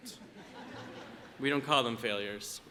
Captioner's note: audience laughs